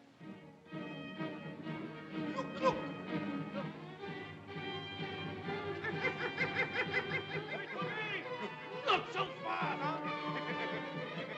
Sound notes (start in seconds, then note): 0.2 suspenseful music; 4.1 suspenseful music; 5.8 monkey hoots; 5.8 suspenseful music